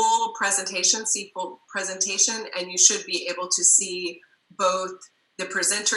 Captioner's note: murmur